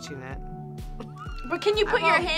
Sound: laughs

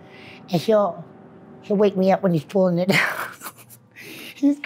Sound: laughs

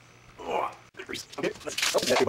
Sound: grunt

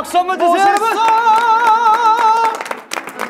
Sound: clapping with his feet

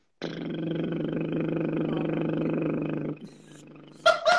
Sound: buzzing sound

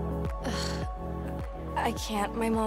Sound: sighs

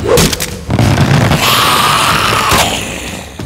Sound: hissing

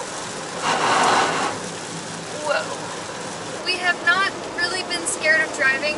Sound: sound of the car driving through puddles

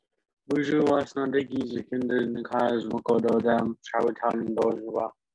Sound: speaking foreign language

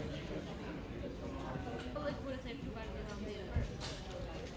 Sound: people talking

